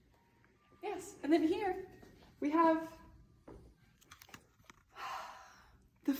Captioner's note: sigh